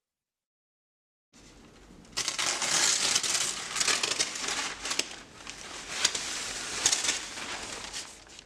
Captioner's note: moving curtains